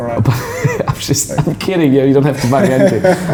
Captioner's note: laughing